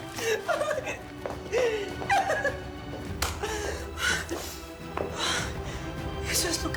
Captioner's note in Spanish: Risas